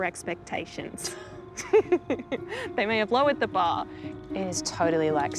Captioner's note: both laugh